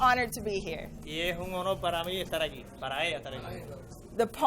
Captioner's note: interpreter speaking in foreign language